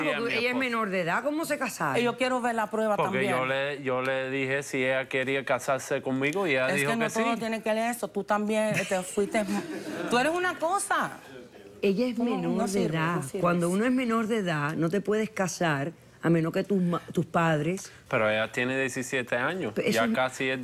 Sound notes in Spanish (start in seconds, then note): 8.7 Risas